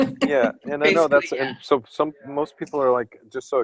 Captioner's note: laughter